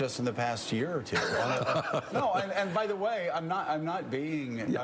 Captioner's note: laughs